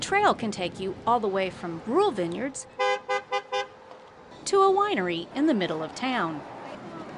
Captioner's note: horn honking